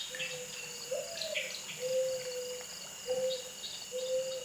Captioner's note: bird sounds